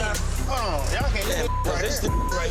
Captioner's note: beep